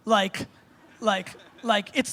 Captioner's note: crowd laughing